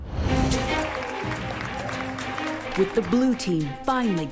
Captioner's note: cheers and applause